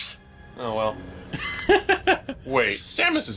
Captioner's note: laughs